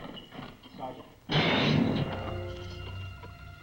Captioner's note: gate slams; tense orchestral music